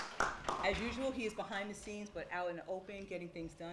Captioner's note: applause